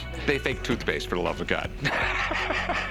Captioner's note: laughs